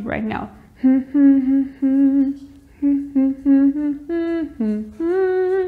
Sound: humming

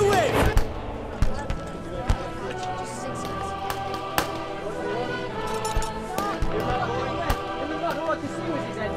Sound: people chatting; guns popping

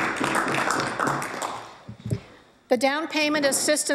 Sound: applause

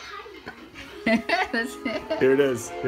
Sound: giggling

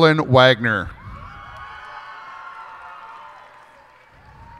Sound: cheers and applause

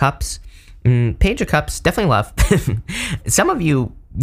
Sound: chuckles

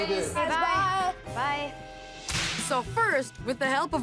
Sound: all saying good-bye

